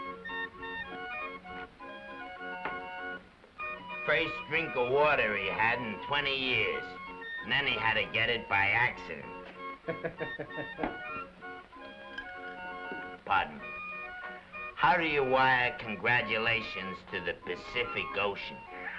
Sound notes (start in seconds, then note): 9.8 waiter laughs; 18.7 playful music; 18.8 waiter laughs